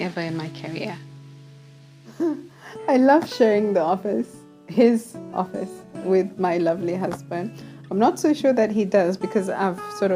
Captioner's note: laughs